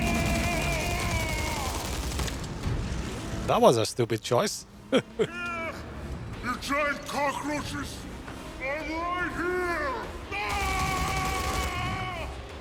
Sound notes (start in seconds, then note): 4.9 laughs